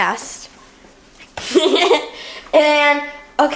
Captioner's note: girl laughs